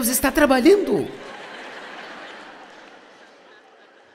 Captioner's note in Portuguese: audiência ri